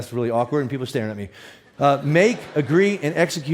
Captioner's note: audience laughs